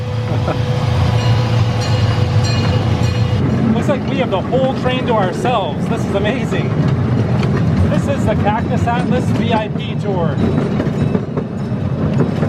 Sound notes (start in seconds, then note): 0.9 bell rings